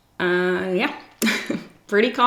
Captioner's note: giggles